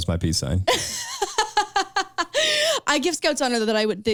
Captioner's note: laughing